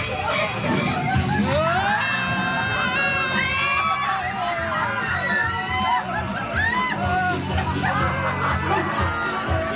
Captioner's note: guests screaming and laughing